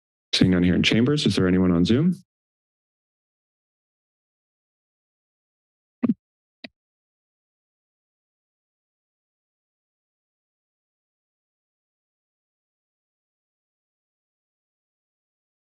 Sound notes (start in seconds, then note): 2.9 silence